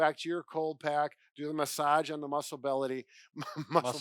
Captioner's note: laughs